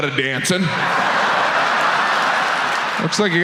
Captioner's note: audience laughs